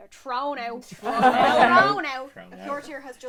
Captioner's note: laughter